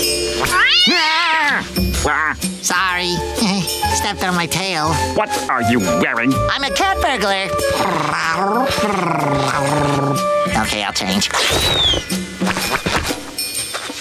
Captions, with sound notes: [meowing] Sorry, heh, stepped on my tail. What are you wearing? I'm a cat burglar. [purring] Okay I'll change.